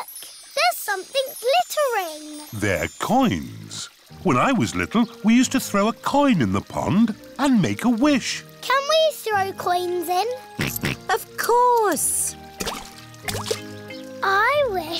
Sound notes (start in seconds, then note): 11.2 snorts